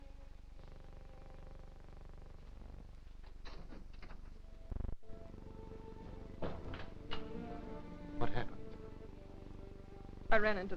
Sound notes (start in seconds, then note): 4.4 soft somber music; 6.4 door thudding